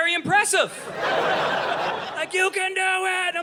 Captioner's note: audience laughing